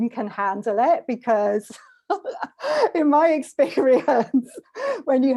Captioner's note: laughs